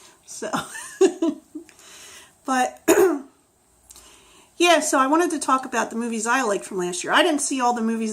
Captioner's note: laughs